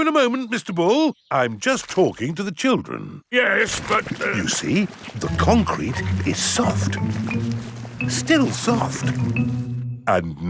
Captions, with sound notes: I'll be with you in a moment, Mr. Bull. I'm just talking to the children. Yes, but... (STUTTERS) You see, the concrete is soft. Still soft.